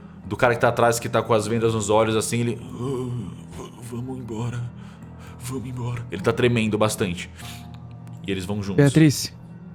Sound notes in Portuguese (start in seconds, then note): 3.1 Gemidos